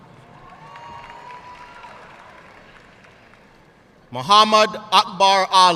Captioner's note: audience cheering and applauding